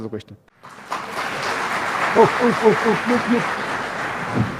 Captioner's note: Bertepuk tangan